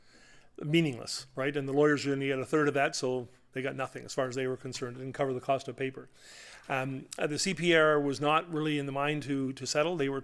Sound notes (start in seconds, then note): none